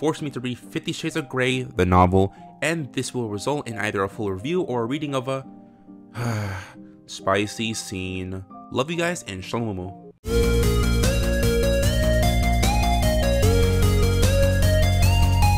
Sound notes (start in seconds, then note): 6.1 sigh